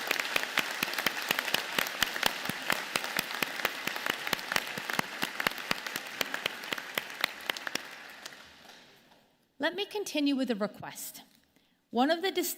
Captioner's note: applause